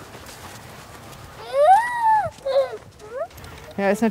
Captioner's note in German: weint